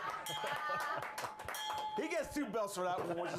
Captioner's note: laughter; bell rings